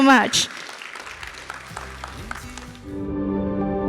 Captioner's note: audience applauds; bright music